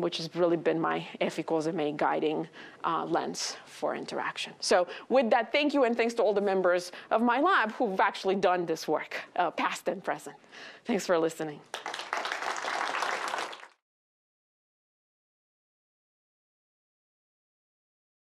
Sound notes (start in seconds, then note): 11.7 applause